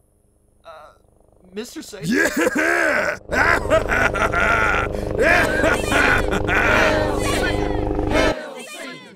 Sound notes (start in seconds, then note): 2.0 MR. SATAN laughs; 5.2 CROWD cheers "Hail Satan!" repeatedly